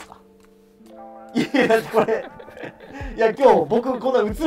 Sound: laughing

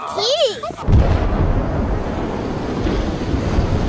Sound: big explosion

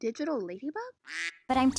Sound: quack

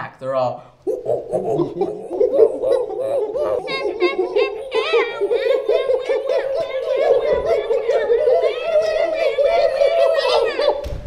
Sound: monkey noises

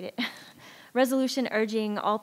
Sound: chuckles

